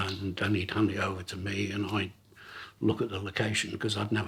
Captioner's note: none